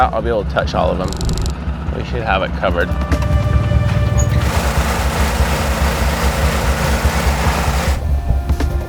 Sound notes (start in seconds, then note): 2.8 dots clicking; 4.4 generator rumbling